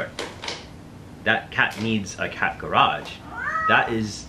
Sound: cat meows

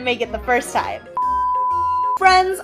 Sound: beep

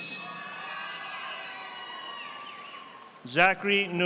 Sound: audience applauding

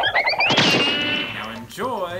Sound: cartoon whirring; cartoon crashing

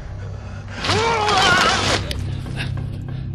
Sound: scream

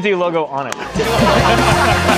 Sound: laughter

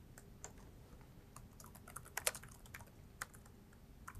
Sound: typing

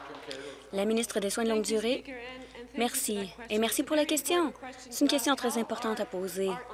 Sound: applause

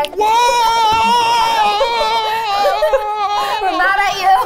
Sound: laughing

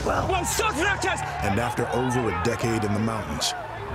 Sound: man yelling angrily

